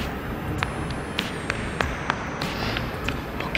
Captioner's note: pat pat pat pat